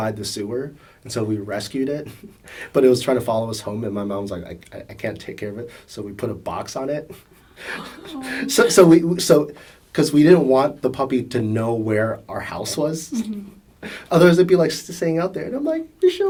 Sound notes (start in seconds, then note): 7.3 gasp; 7.3 laughs; 13.1 laughs